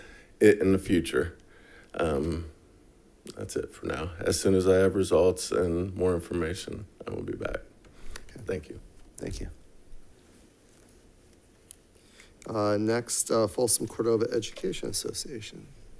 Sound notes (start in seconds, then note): none